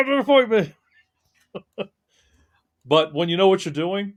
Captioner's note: laughing